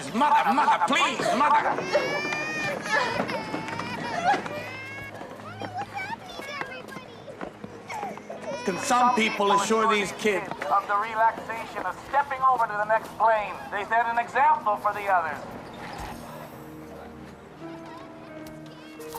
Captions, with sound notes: Mother, mother, please, mother! (baby crying) - [Voiceover] Mommy what's happening to everybody? - Can some people assure these kids of the relaxation of stepping over into the next plane? They set an example for the others.